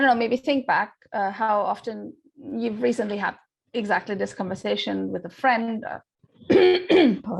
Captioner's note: coughs